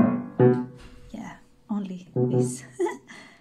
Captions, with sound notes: yeah.. only this.. (laughs)